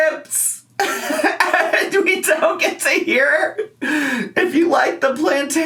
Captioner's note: laughs